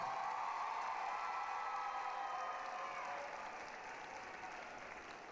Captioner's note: applause, cheering